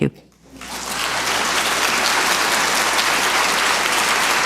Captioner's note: audience applauds